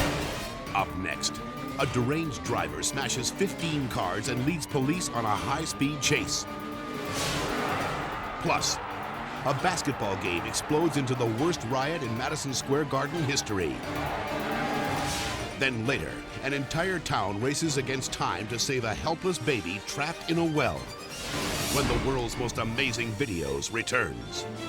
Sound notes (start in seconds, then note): 0.0 logo swooshing; 6.9 scene swooshing; 15.0 scene swooshing